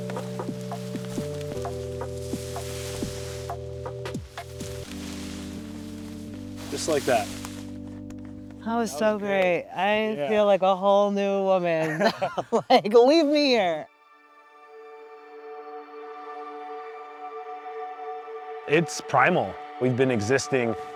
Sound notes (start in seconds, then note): 11.8 laughter; 13.0 ethereal music